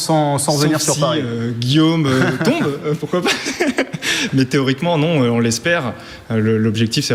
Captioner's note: laugh